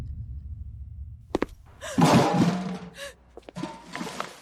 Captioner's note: door slams